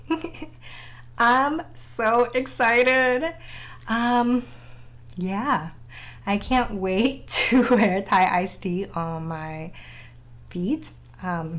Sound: giggle

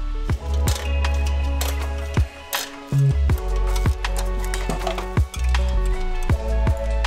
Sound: relaxed synthesized music; tool cranking

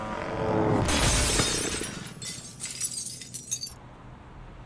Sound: glass shatters

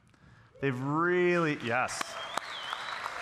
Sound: audience cheering; audience applauding

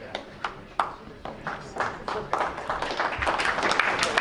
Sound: crowd applauds

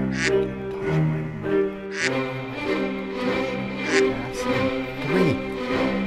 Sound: dramatic music; loud duck quacking

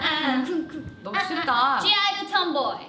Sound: bell rings; speaking in Korean

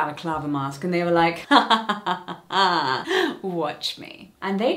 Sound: mimics laughing

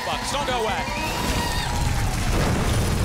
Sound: audience applause

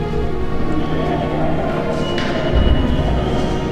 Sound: announcement on speakers

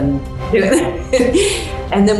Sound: laughs

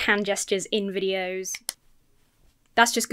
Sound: claps hands

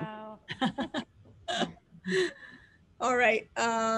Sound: laughs

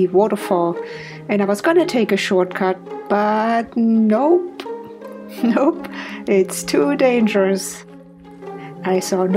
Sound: laughs

